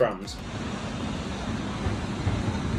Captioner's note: tram and street sounds